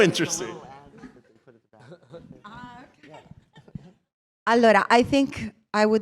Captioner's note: indistinct chatter